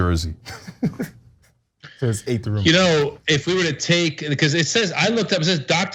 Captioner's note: laugh